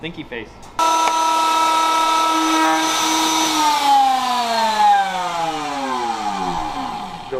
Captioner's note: loud machine noise and then switched off